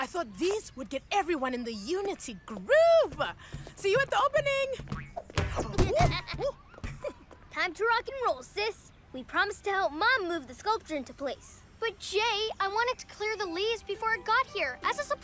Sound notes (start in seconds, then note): 5.5 giggling